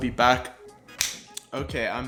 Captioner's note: snap